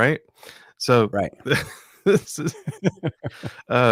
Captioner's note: laughs